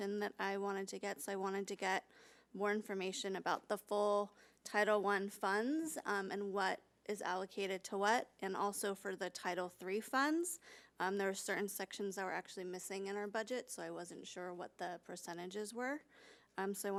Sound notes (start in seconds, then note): none